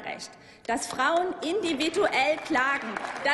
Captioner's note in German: Applaus